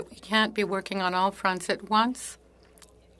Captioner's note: speaking French